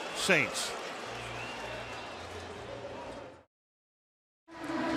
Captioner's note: pa announcement